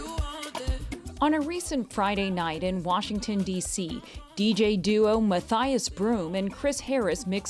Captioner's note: voice-over